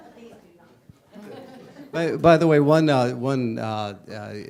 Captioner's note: laughter and Inaudible Discussion